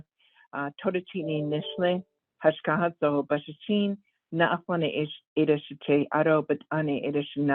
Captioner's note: introduction in Navajo